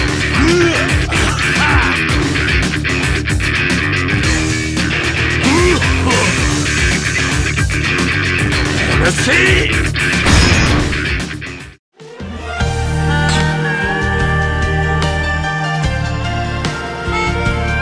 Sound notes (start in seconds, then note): 0.2 groaning; 4.9 cough! Splutter!